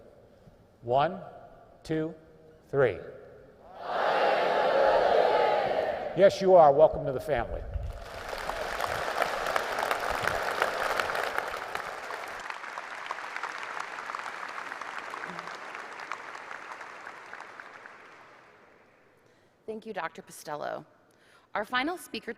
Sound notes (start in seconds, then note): 7.8 applause